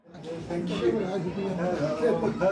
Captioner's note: people chattering